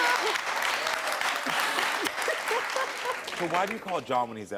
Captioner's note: laughs; cheering